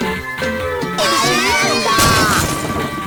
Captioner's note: aaaaaaaaaaaaaa!